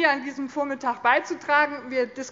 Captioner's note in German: none